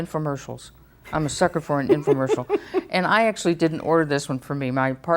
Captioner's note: laughs